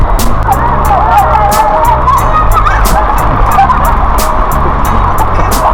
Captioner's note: scream